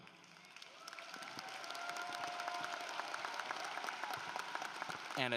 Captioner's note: applause